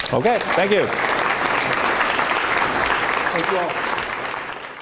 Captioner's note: applause